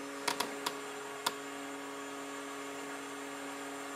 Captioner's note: machine noise